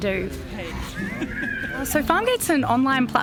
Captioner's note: man in blue shirt laughing